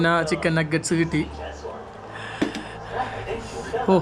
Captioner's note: sounds on TV